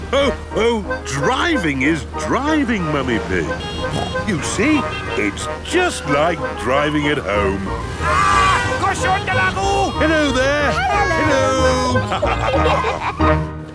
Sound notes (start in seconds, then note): 7.8 yells; 11.8 laughter